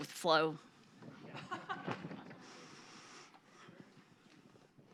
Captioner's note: audience laughs